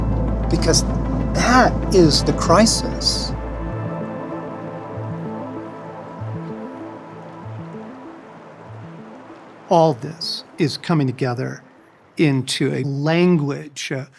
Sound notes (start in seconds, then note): 3.9 gentle music; 3.9 water rustling